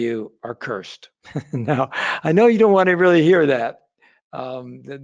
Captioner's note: laughs